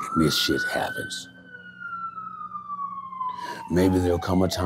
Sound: siren wailing

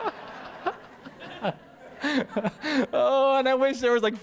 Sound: pastor: Laughter

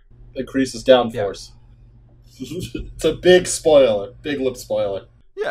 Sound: laughter

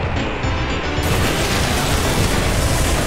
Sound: turbulence

